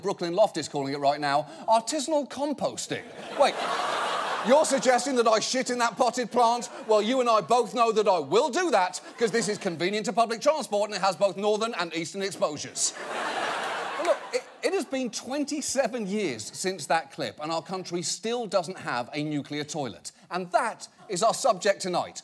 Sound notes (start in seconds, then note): 12.7 audience laughs